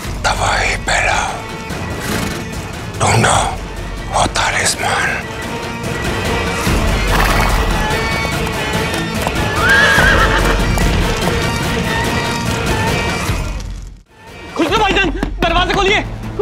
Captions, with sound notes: must spread destruction. Find that Talisman. [horses neigh] Khusro! Open the door!